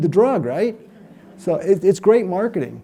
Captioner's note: audience laughs